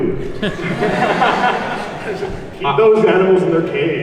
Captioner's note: audience laughs